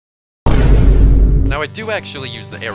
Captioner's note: boom